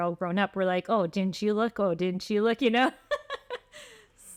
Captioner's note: laughter